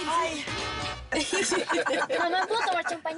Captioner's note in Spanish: Risas